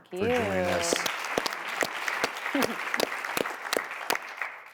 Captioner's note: audience applause